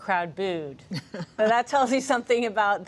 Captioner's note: laughter